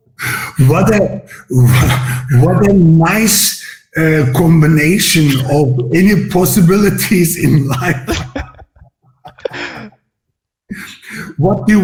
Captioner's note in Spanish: Risas